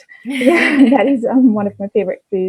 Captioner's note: laughs